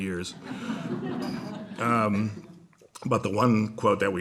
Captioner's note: laughter